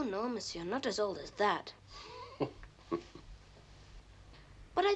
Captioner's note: chuckles